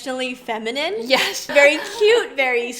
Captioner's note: laughs